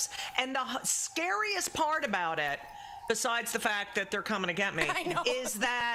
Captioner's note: laughter